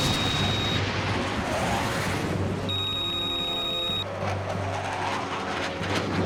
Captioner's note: radio beeping; aircraft whirring